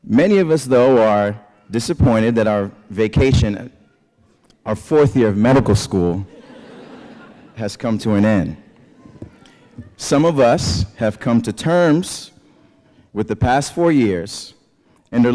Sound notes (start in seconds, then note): 6.2 laughter